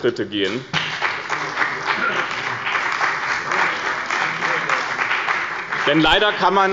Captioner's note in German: Beifall bei dem BÜNDNIS 90/DIE GRÜNEN und der CDU